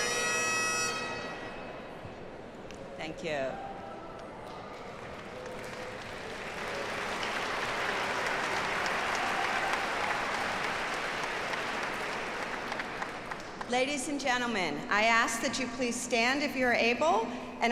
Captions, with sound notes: - Thank you. (audience applauds) Ladies and gentlemen, I ask that you please stand if you're able.